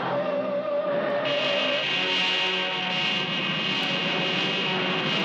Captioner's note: laser blasting